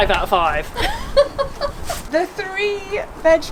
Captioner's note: laughs